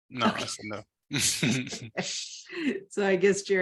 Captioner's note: laughter